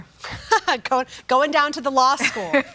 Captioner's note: laughs